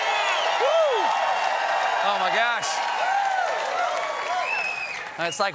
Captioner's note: cheers and applause